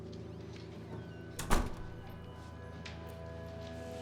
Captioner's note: door closing